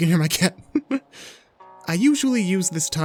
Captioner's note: laughs